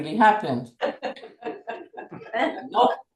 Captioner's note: laughter